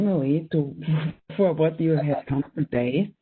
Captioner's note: chuckles